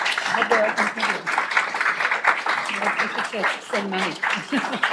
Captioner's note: panelist speaking softly